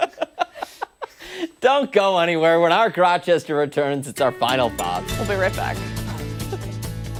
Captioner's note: laughter